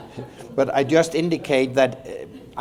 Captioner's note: laughter